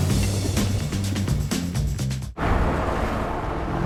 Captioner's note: thunder rumble